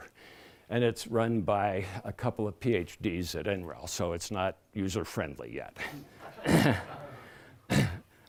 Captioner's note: laughter